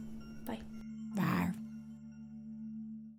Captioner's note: monster growls